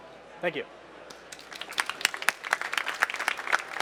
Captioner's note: applause